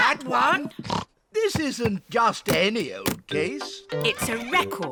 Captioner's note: snorts